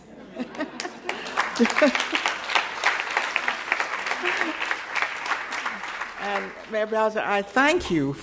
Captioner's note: applause